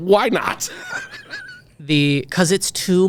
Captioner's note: laughing